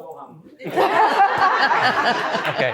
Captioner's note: laughter